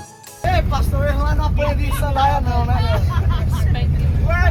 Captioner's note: angry Portuguese